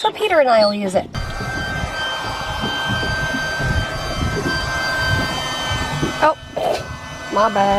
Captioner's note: high pitched noise